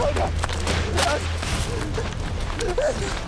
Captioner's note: panting